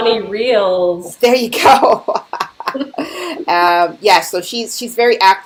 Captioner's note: laughing